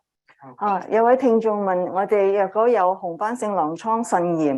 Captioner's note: speaking chinese